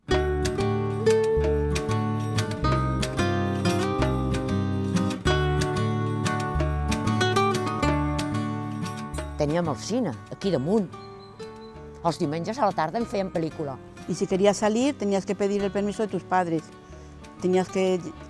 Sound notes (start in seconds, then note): 9.4 in catalan